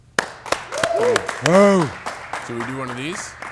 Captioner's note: audience applauding; audience cheering